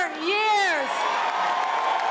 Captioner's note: cheers and applause